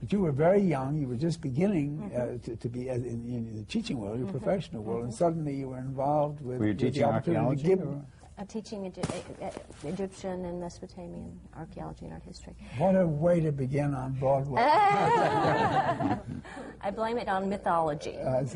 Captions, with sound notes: But you were very young, you were just beginning to be in the teaching world, the professional world, and suddenly you were involved with the opportunity-- Were you teaching archeology? I was teaching Egyptian and Mesopotamian archeology and art history. What a way to begin on Broadway! (LAUGHTER) I blame it on mythology.